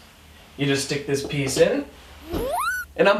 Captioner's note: whacky Sound Effect